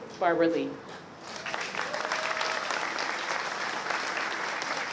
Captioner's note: applause